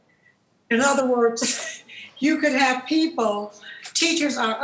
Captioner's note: laughs